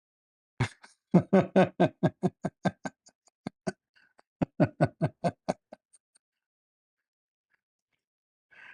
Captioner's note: Ketawa